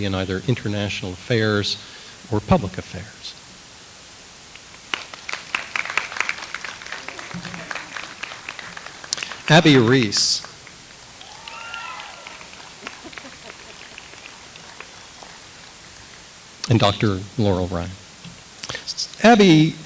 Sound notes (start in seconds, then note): 5.2 audience applauds